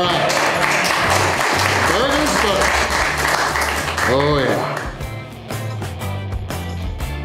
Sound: crowd clapping and cheering

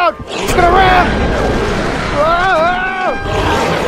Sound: crash Sound; carnotaurus Sounds

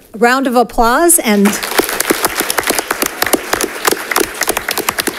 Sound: congregation applauds

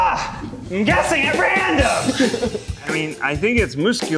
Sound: grunts

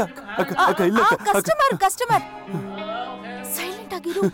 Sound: Malay Language

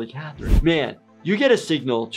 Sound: air whooshes

